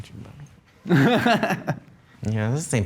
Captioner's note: laughing